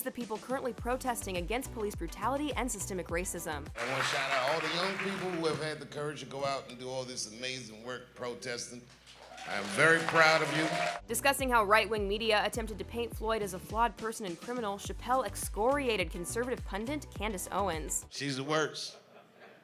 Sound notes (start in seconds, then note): 3.7 audience applauds; 9.0 audience applauds and cheers